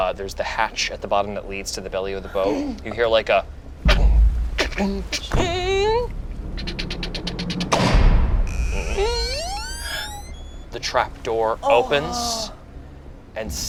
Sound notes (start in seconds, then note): 4.3 door clunking; 8.3 door creaking